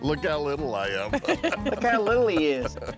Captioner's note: laughing